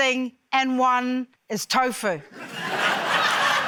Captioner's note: laughter